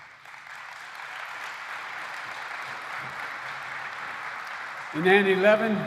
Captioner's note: applause